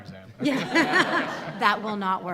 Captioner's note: laughter